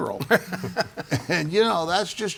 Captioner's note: laughing